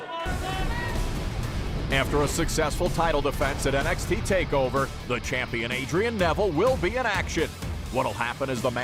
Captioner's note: fans chanting